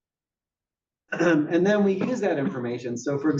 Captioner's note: cough